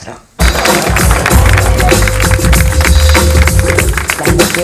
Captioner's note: applause